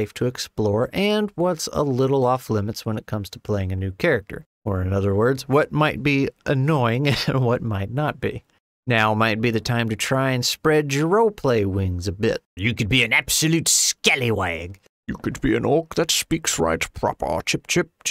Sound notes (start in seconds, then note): 12.5 total pirate accent; 14.7 awful British accent